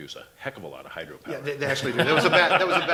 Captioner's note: laughter & Inaudible Remark